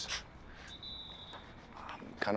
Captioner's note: distant whistle screeching